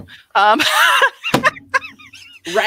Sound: laughing

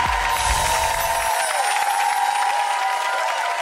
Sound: audience cheers; bells chiming

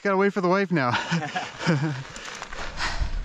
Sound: laughing

